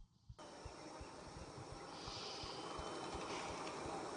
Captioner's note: faint chirping